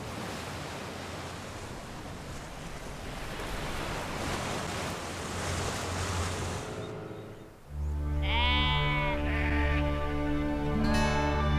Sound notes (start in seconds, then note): 8.2 sheep baa